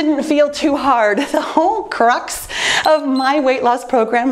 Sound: timer beeps

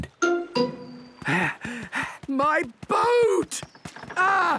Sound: panting

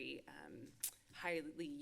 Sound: clicks tongue

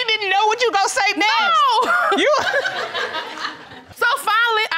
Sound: laughs

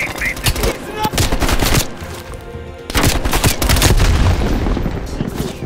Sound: gunshots; gunshots

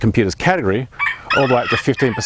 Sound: rooster crowing

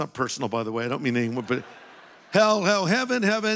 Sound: audience laughing

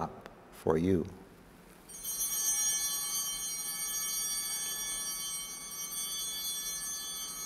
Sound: altar bells ringing

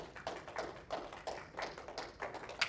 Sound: applause

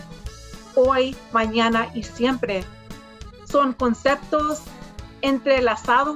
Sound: speaks in foreign language

